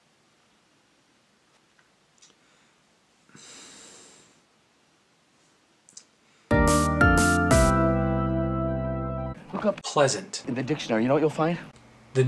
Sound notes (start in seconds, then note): 3.3 sighs; 6.5 upbeat music plays